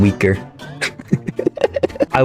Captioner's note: laughs to myself